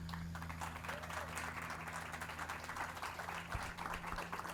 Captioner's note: audience claps